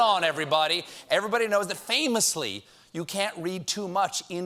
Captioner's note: booing